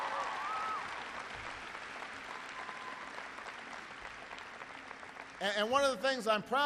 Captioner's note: applause